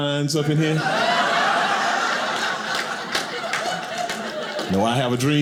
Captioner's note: audience laughing